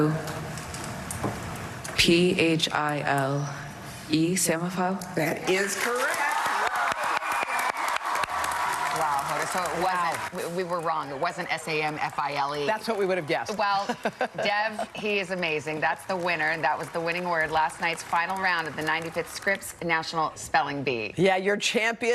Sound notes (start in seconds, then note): 11.9 cheers and applause